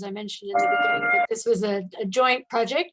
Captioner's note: gadget beeping